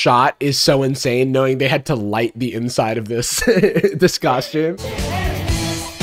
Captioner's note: laughs